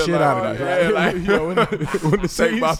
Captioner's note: laughing